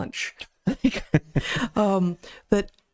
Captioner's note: both Laughing